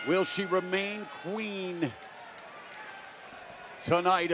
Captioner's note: bell ringing